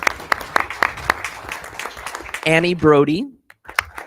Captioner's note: people clapping